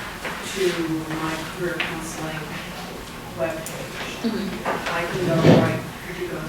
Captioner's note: static